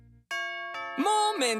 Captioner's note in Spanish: Sonido de timbre génerico.mp3